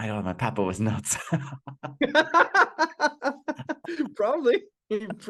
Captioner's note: laughing